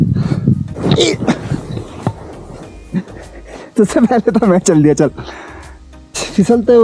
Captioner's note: laughs